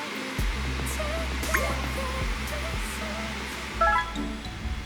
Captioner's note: whoosh